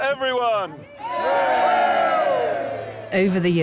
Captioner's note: everyone cheers